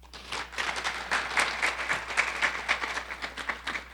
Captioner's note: audience applauding